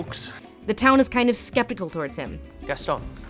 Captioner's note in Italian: voce fuori campo